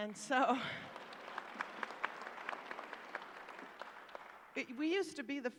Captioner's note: applause